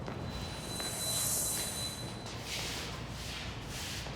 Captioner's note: pitch whirring